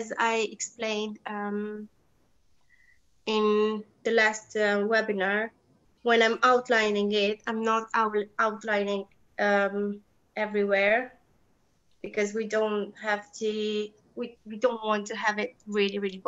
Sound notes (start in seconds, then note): none